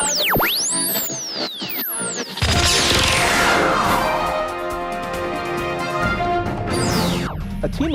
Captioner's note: sound Effects